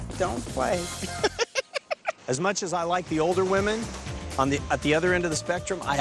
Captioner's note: laughs